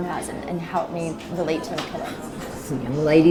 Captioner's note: speaks faintly